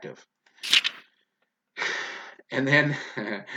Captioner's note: page flipping